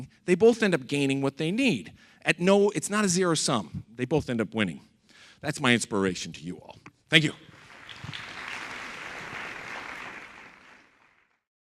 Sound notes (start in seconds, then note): 7.4 audience applauds